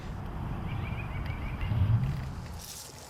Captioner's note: bird chatters